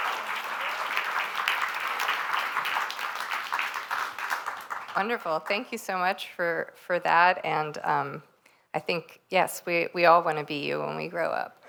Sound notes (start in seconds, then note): 0.0 applause